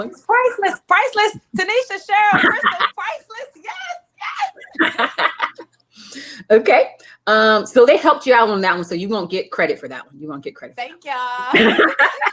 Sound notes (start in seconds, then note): 4.2 laughing